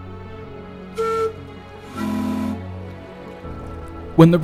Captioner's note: tug boats whistle to each other